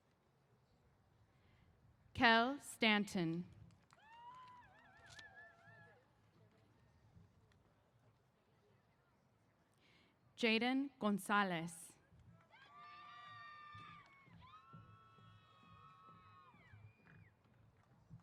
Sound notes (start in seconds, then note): 12.4 cheers